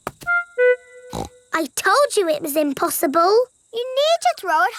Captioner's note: snorts